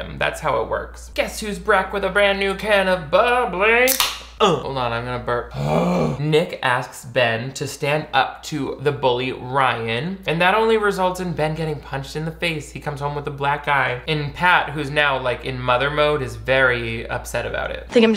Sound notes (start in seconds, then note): 3.8 can popping; 5.4 groans